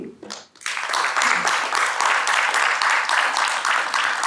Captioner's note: audience applauds